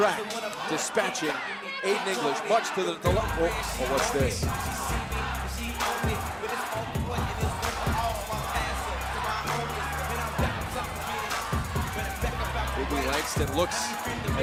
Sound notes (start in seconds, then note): 5.1 crowd cheering